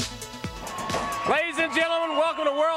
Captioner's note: crowd cheering